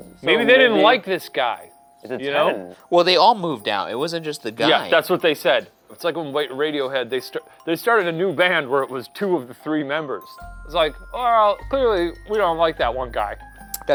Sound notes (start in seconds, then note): none